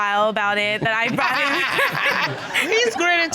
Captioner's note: all laughing